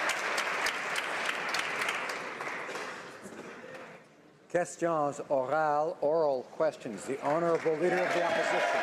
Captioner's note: applause